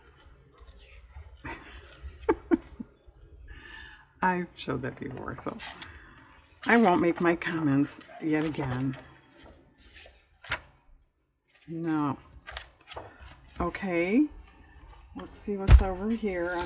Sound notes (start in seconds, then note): 3.0 laughs